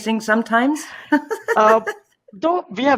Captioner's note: laughing